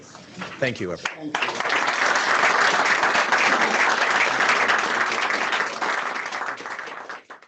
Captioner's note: audience clapping